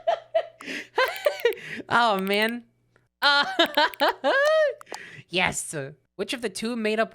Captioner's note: laughs at the prospect of a dog and cat being friends; laughs